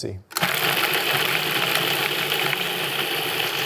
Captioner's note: mixer whirring